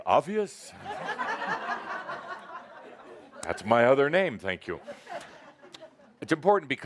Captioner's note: laughter